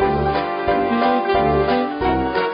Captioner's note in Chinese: none